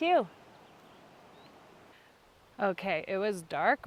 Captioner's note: birds chirping